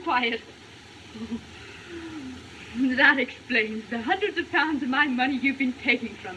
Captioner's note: shudders